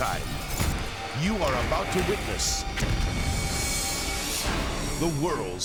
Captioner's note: explosion booms; explosions booming